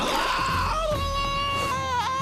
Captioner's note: screaming